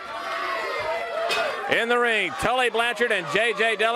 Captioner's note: crowd cheering; bell ringing